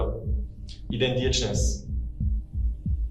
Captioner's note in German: russisch